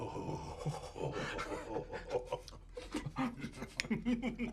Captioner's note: laughing